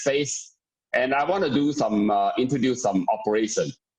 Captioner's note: murmur